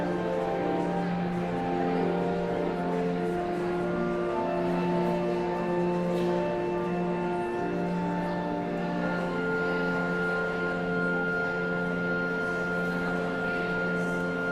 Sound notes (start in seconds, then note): 0.2 somber organ music continues; 4.9 audience chattering continues